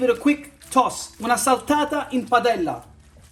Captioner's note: speaks Italian